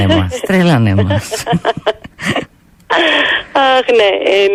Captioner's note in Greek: γέλια